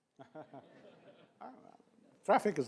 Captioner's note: laughs